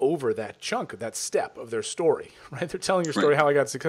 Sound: laughs

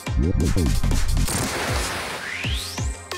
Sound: explosion

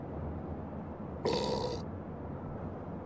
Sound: moist burp

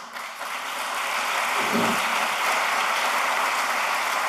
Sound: applause

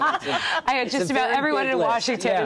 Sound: laughter

